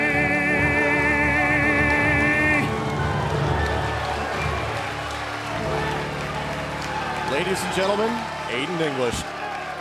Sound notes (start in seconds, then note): 0.3 crowd cheering